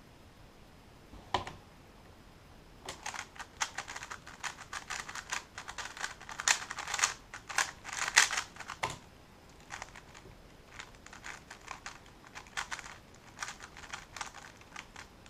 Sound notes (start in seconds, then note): 1.3 cube noises